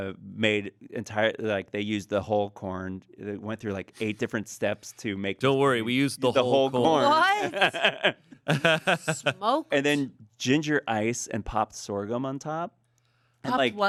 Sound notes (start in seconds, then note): 8.4 laughs